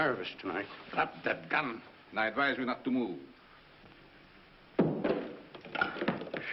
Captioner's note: gun drops